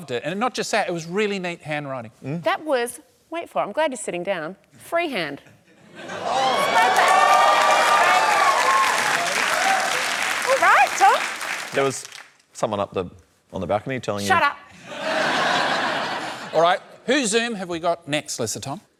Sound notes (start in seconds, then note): 6.1 cheering, applause; 14.8 laughter